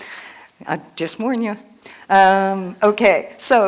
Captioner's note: none